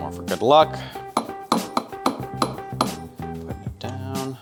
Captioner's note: blender tapping